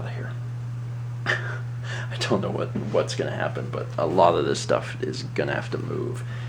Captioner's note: laughs